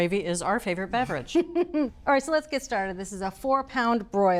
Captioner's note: laughs